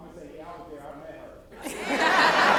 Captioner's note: laughter